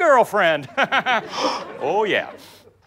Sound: laughs; gasps

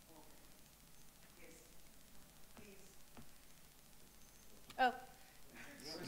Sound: speaks off microphone

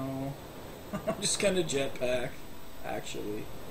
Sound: chuckling

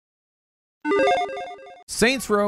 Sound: electronic chiming

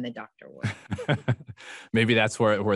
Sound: laughs

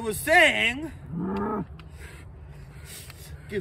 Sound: moan

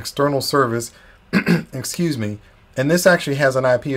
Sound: clearing throat

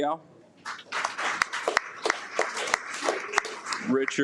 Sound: audience applauds

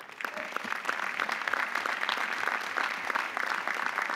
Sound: audience applauding

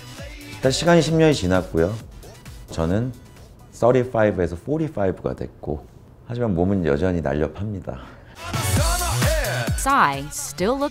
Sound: non-english speech

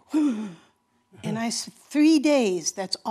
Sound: gasp

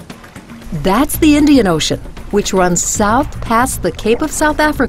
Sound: voiceover

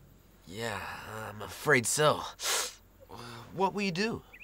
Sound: winces

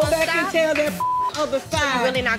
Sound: beep

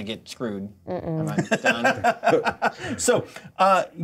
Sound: co-hosts laughing

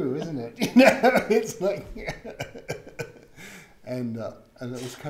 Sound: laughs

